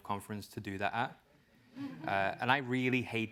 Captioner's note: laugh